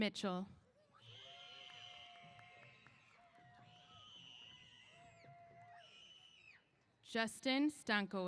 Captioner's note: cheers